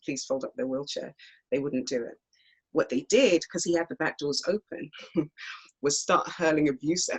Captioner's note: small laugh